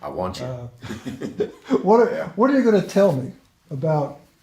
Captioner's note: both laugh